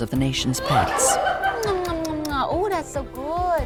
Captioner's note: nurse laughing